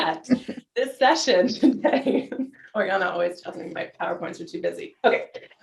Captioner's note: giggles